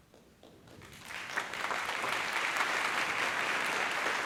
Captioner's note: applause